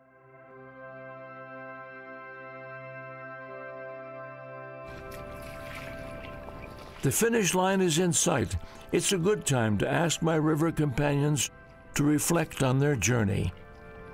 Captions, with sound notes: [organ music playing] [splashing] The finish line is in sight. It's a good time to ask my river companions to reflect on their journey.